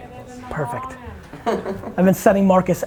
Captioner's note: laughs